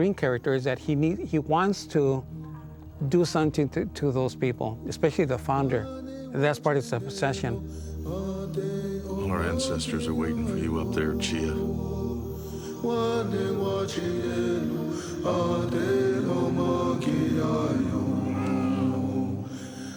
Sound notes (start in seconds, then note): 12.5 native vocalizing